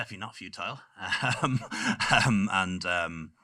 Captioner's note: laughing